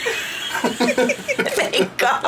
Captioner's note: people laughing